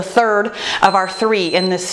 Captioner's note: timer beeping